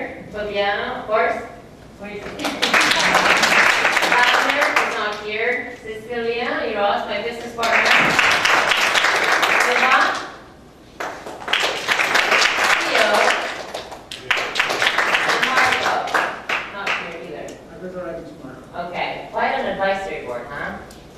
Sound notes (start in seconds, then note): 1.8 applauses; 10.9 applauses